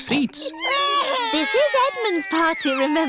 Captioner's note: babies crying